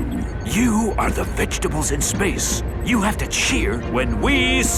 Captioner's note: whispering